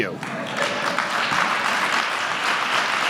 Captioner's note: applause